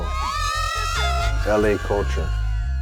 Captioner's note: women screaming